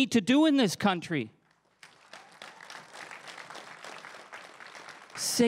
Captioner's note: crowd applauding